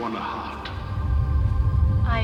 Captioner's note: rumbling